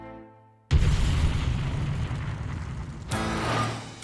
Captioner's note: exploding